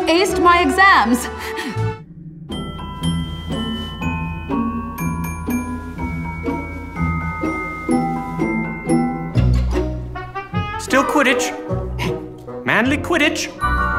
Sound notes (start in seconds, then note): 1.6 giggles